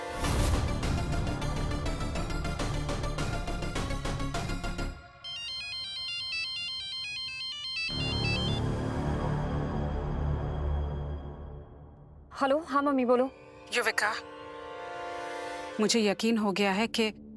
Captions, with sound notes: [pensive music playing] [phone ringing] - Hello, yes, mom. Tell me. - Yuvika. I am sure